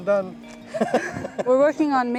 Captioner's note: laughs